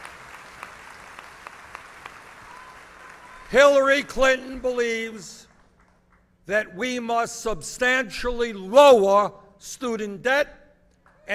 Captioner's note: applause